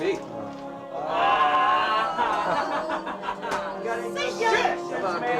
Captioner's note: group laughs